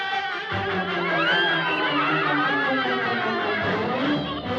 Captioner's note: laughing; cawing